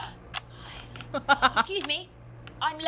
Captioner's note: chuckles